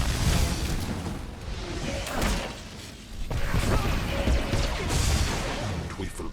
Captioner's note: gunshots